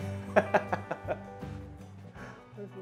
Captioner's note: laughs